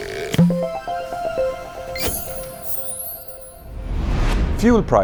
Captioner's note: playful chime